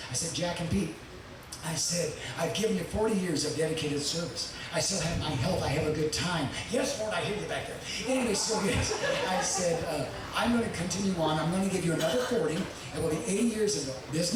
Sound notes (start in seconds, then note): 6.6 thunder rumbling; 8.6 audience laughing